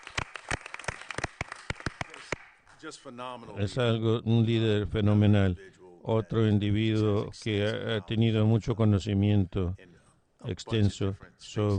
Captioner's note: applause